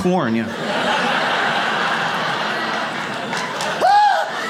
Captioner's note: audience laughs